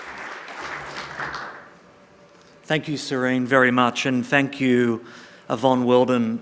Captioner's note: applause